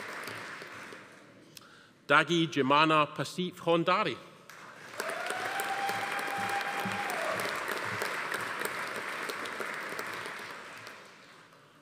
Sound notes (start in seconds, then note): 4.5 audience applauding; 4.9 attendee cheering